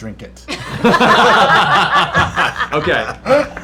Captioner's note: laughter